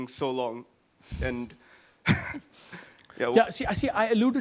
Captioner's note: chuckles